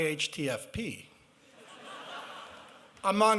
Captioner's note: laughter